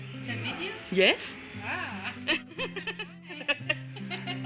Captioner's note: ha ha